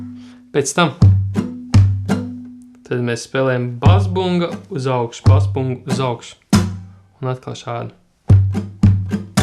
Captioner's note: with an accent